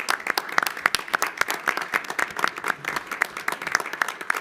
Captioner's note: all applaud